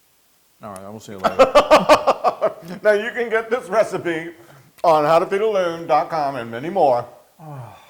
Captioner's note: laugh